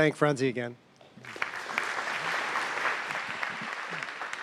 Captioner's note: applause